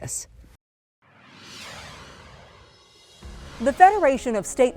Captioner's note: logo swooshes